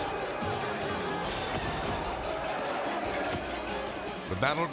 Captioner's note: politicians clamoring; punches thumping